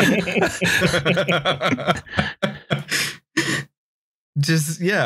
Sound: laughter

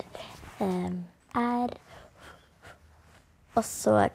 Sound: pant, pant

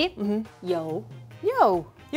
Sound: speaking in mandarin

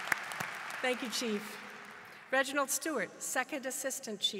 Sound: applause

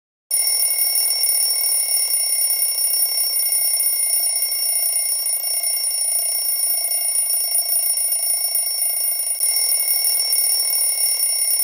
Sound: alarm ringing

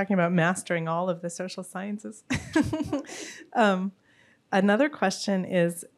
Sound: laughs

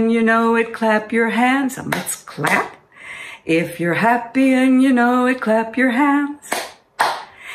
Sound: clap, clap

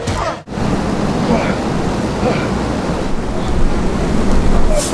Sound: eolian noise

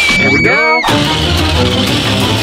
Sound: screams

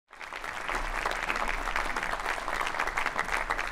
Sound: audience applauding

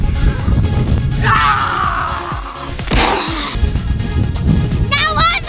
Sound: all kids screaming

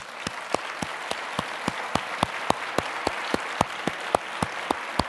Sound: applause

